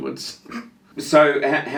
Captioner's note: laughs